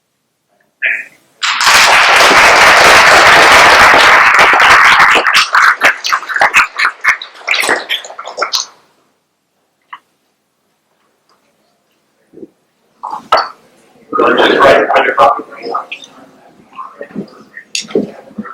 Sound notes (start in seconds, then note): 1.4 applause